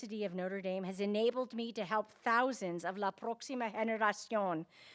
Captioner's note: speaking in Spanish